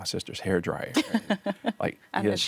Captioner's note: laughing